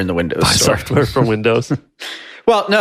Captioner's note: sighs